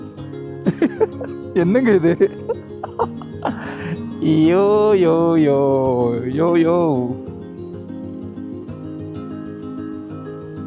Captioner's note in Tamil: சிரிப்பு